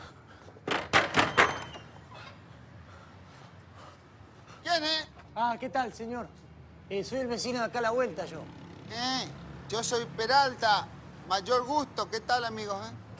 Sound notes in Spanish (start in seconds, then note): 0.7 Ricardo golpea la puerta